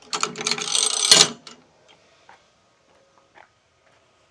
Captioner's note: ratchet clanking